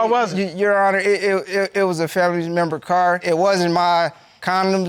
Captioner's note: stammers